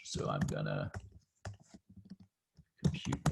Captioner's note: typing